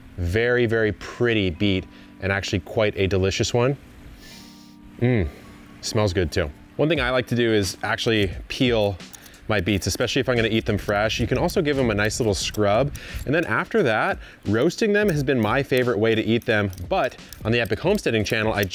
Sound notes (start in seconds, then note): 4.2 sniffs